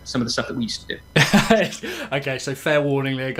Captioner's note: laughs